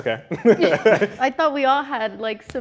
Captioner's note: both laughing